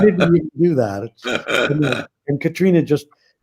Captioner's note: laughs